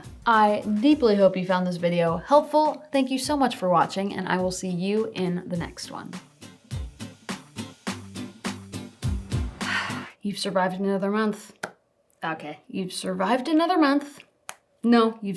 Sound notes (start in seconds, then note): 6.2 playful music; 9.6 exhales